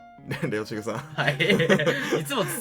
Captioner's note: laugh